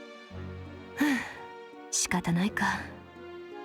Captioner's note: sigh